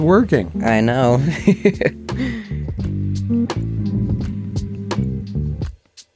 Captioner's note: laughter